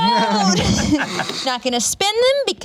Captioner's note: laughs